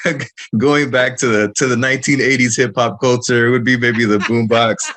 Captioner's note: laughter